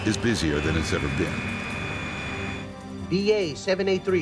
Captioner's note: jet engine whining